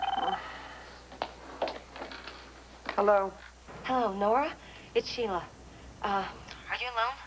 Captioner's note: telephone rings